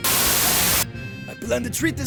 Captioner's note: Static